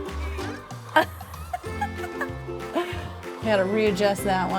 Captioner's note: laughs